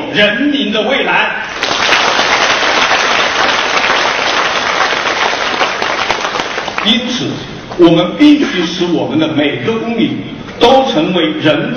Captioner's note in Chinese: 众人鼓掌声